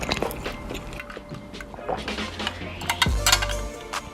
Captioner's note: chew; slorp